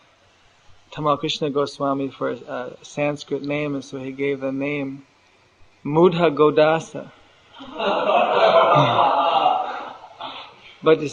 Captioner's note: laughter